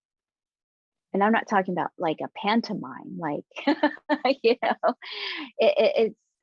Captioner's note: chuckling